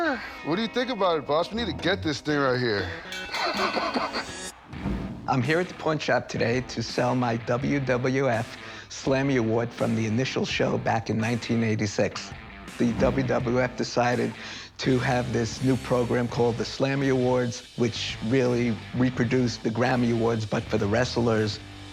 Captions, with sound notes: What do you think about it, boss? We need to get this thing right here. - [laughs] - I'm here at the pawn shop today to sell my WWF Slammy Award from the initial show back in 1986. The WWF decided to have this new program called the Slammy Awards, which really reproduced the Grammy Awards but for the wrestlers.